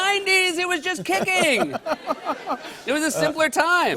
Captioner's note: laughter